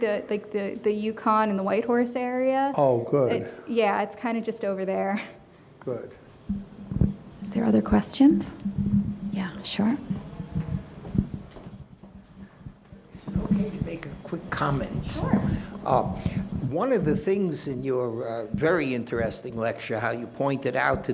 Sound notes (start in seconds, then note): 5.3 chuckles